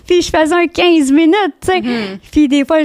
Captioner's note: in french